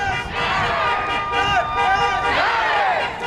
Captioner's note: car horns blaring; crowd; car horns blaring